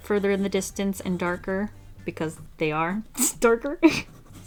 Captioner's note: laughs